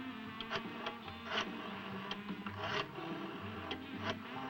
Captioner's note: telephone whirring